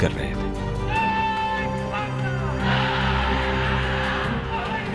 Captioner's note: chanting slogans